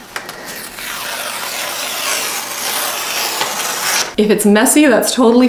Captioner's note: transfer ripping